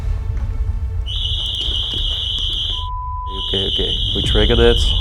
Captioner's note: alarm sound